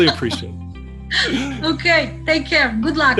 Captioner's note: chuckle